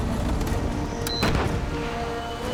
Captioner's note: beep